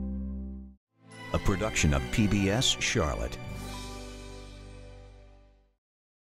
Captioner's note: voiceover